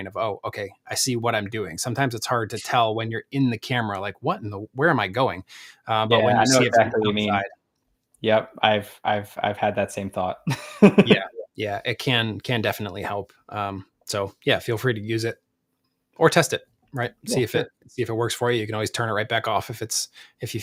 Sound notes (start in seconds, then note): 10.4 laughs